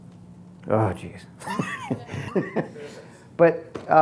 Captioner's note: laughing